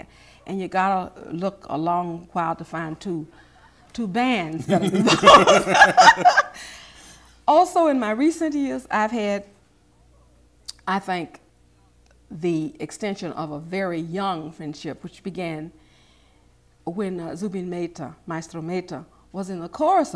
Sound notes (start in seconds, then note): 4.5 laughter